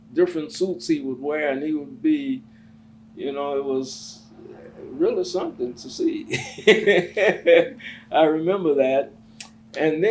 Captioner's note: laughs